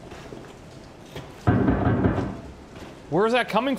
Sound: loud banging

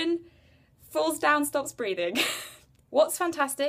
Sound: laughs

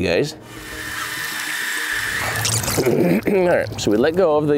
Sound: tape whirring

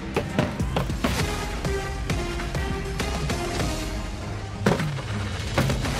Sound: dramatic music; thudding

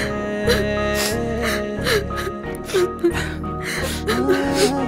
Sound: sobbing

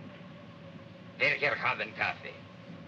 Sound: speaking in Russian

